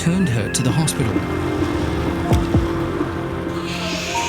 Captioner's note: car engine roaring